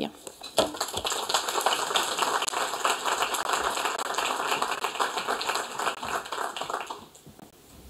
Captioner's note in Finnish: Aplodeja